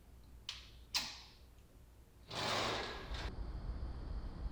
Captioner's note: lock clicking